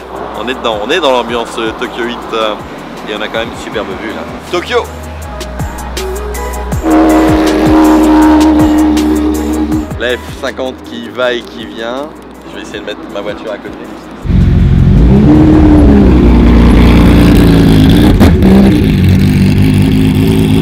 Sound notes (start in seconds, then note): 6.8 engine roaring